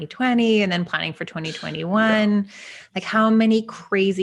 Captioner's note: blows raspberries